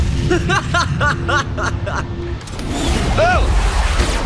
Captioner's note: laughs maniacally